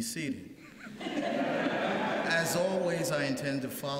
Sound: laughter

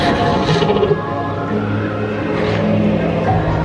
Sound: animal grunting

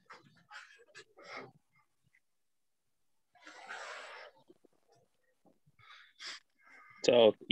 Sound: silence

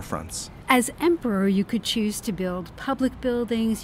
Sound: voiceover

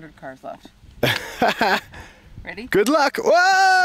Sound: laughs

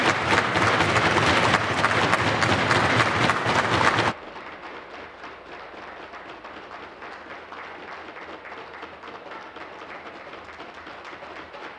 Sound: applause

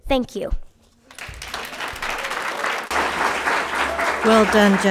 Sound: audience applauding

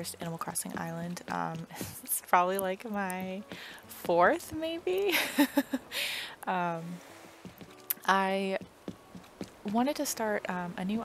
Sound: laugh

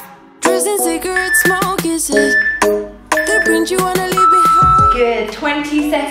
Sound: workout timer beeping

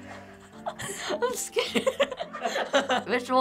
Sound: laughs

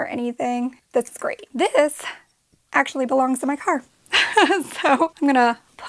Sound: laughing

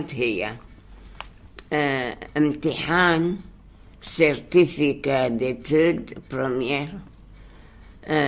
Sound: French

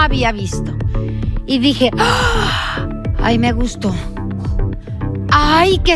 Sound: gasp

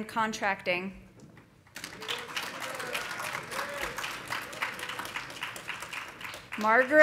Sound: audience applauding; audience cheering

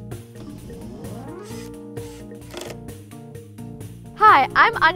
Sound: drill whirring

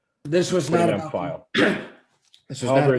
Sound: overlapping chatter

